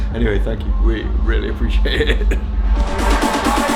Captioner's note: laughs; upbeat music